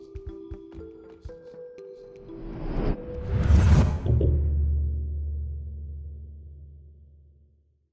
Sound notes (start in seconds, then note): 0.0 light music; 2.4 whooshing